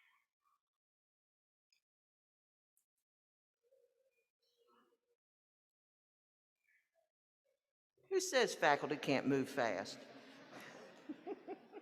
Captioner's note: applause